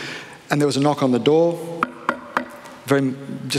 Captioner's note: knocking